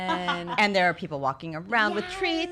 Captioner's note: background laughter